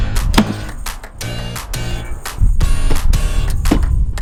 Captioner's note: wall pieces clap down; bright music continues